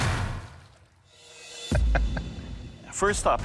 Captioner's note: laughing